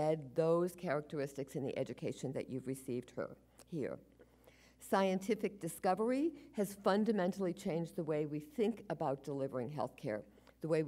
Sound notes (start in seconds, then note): none